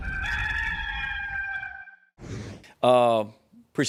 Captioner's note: cock crowing